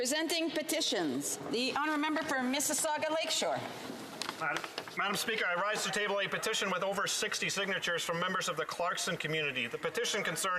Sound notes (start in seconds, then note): 1.7 speaking French